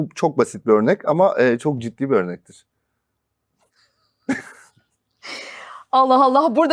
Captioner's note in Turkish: kahkaha